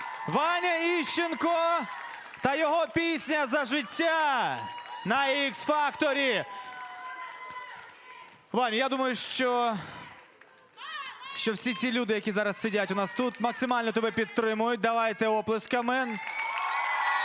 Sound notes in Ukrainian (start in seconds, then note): 0.0 оплески; 7.1 оплески